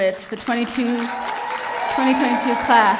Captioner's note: audience cheering